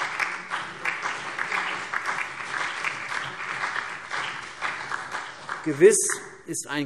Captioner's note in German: Beifall CDU, BÜNDNIS 90/DIE GRÜNEN, SPD und Freie Demokraten